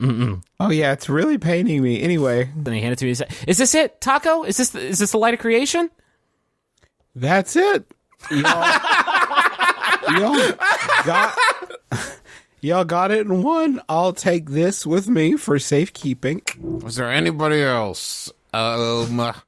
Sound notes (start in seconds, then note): 8.2 laughter; 10.8 laughs